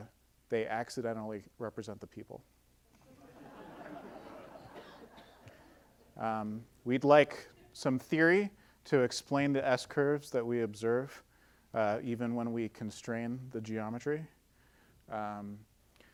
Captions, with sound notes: they accidentally represent the people. (audience laughing) We'd like some theory to explain the S-curves that we observe, even when we constrain the geometry.